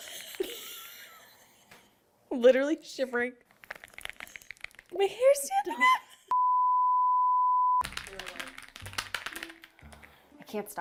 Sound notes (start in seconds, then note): 0.2 laughs; 6.3 sine tone; 7.8 typing noise